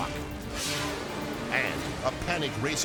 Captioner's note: air whooshes